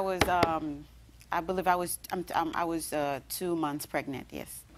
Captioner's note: raps desk